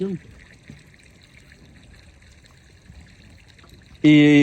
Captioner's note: water trickling